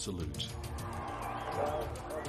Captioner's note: crowd cheering